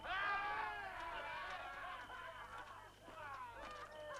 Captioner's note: guard hollering